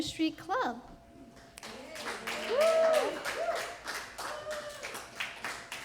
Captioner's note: applause